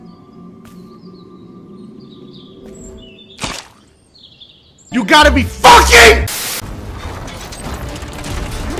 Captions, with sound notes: (mud splat) - [Comedic Voice] You gotta be fucking-